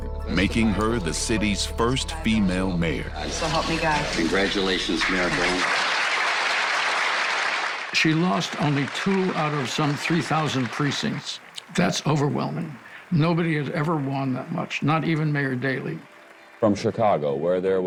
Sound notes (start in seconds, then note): 5.4 audience applauding